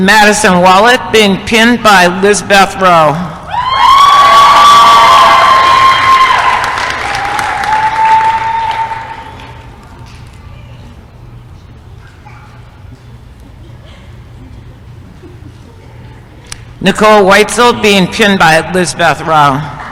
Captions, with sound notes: MADISON WALAT being pinned by Lissbeth Rao [applause & cheering] NICOLE WCISEL being pinned by Lissbeth Rao